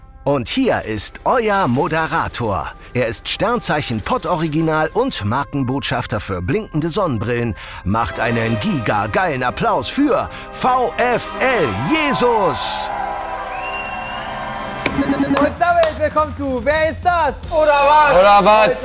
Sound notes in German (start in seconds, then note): 13.1 Jubel, Pfiffe